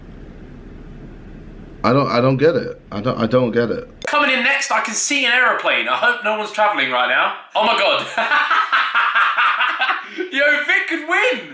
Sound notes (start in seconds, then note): 7.5 laughing